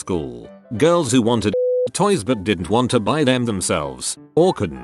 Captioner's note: beep